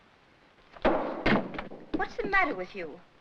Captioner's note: bottle bangs